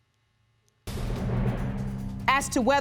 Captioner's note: audience gasping